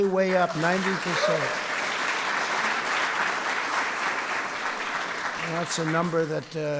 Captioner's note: applause